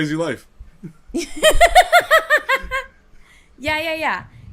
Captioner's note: laughter